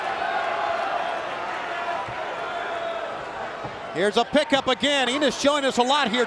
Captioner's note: crowd chatter